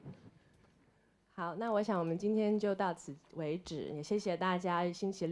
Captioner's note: Mandarin